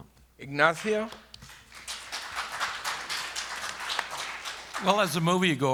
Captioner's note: applause